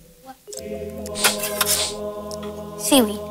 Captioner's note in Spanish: Sniff sniff